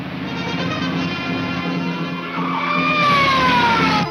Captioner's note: police siren blares